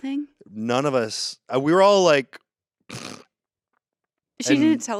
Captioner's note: snorts